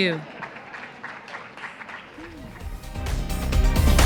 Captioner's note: applause; closing music